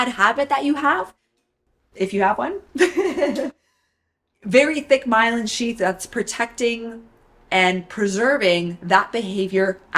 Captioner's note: laughs